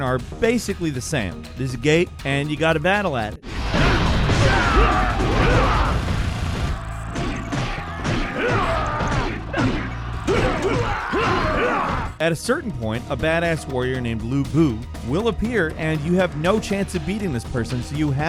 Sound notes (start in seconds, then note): 3.4 explosion blasting; 4.3 men grunting; 7.1 blows thudding